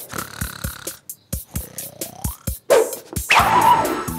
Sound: snoring

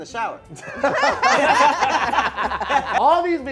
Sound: group laughing

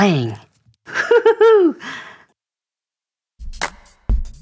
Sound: Dr. McTinker laughs

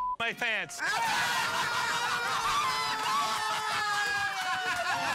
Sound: laughing and cheering

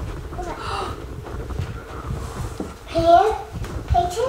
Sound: gasping

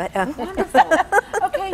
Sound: laughing

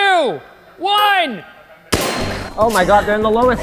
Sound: gun shot

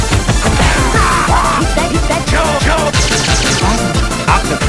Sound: zap!

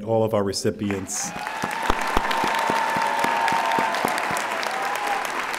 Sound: audience applauding

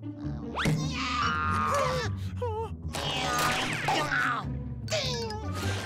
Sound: grunting

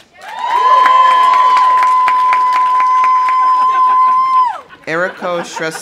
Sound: audience applauding; audience cheering; people laughing

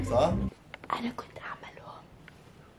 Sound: whispering

